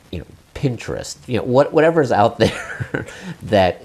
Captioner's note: chuckle